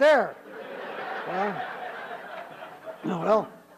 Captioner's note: laughter